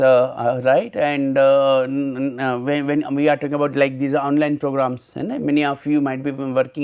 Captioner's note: vocalized- noise